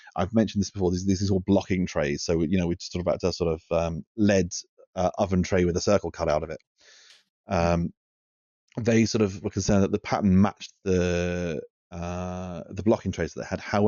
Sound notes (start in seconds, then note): none